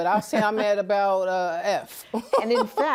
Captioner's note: laughs